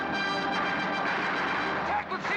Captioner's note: dramatic music; gunfire